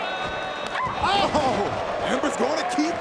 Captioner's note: Ember shouts